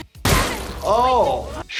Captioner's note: gun shot